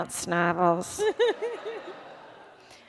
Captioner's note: laughter